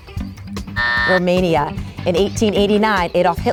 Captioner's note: buzzer buzzes